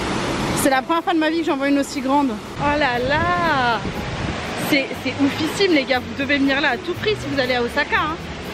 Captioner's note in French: none